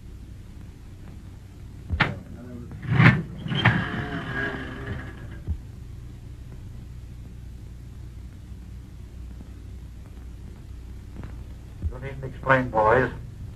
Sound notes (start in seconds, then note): 2.7 machine spins